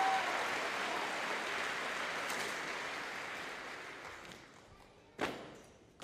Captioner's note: audience applauding and cheering